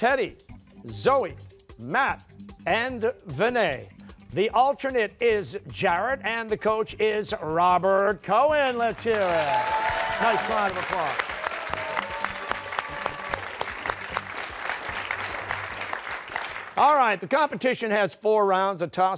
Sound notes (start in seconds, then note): 12.4 cheers and applause